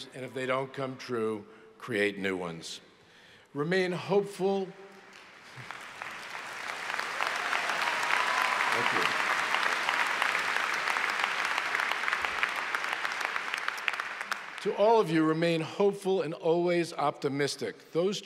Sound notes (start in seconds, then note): 6.6 applause